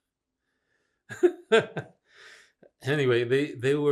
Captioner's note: laughing